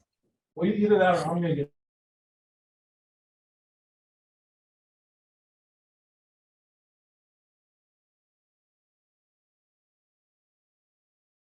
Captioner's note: audio drop